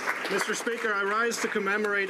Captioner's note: some Applause